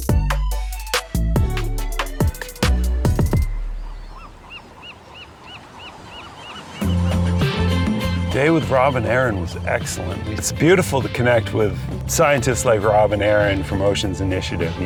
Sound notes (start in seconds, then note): 0.0 upbeat music; 4.2 gulls squawking; 7.0 gentle music